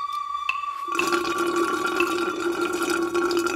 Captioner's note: slurps